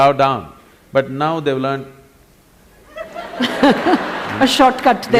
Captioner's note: laughter; 笑聲